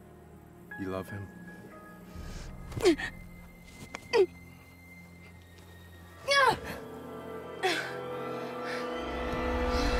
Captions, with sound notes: You love him? [Grunts]